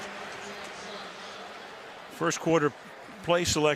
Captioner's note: pa announcement